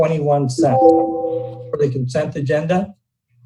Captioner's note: short beep